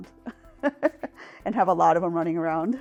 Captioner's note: laughing